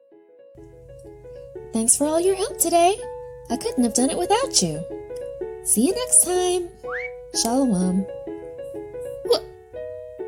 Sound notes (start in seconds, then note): 0.1 cheerful piano music; 6.8 air whistling